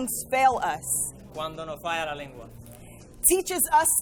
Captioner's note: interpreter speaking in foreign language